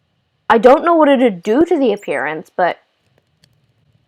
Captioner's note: none